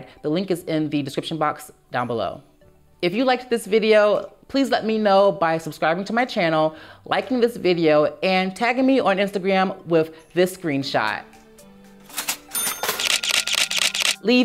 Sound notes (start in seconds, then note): 12.0 ka-ching; 12.9 camera shutter